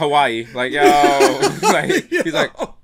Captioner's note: laughs